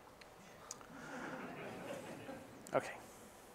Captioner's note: scattered chuckling